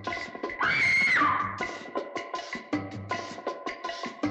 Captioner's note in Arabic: يصرخ